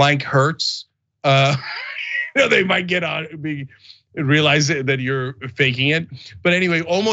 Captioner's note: laugh